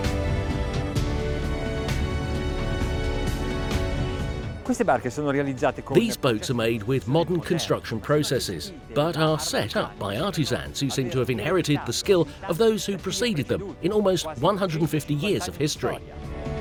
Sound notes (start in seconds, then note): 0.0 bright music; 4.8 speaking Italian